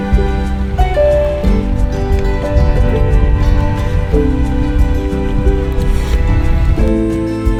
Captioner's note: haha